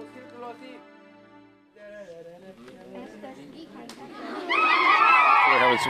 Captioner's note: children laughing